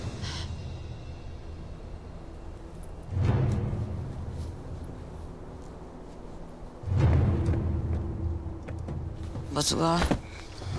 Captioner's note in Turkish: Uğultu ve Takırtı Sesleri